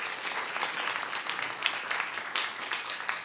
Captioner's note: applause